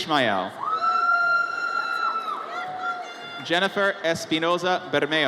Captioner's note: audience cheers